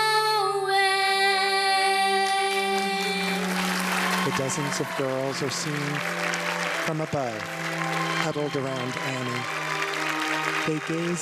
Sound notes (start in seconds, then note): 2.7 audience applause